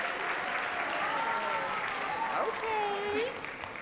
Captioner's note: audience claps